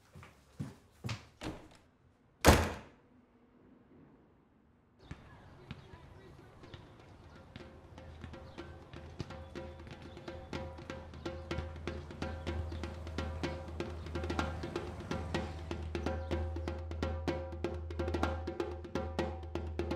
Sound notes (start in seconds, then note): 0.1 footsteps thudding; 2.4 door slams; 7.7 djembe drum beating